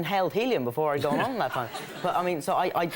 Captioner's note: crowd laughs